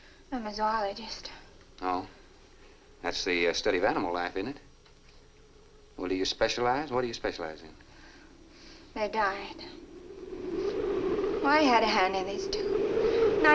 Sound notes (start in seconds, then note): 9.8 muffled wind howls